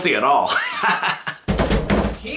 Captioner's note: laughing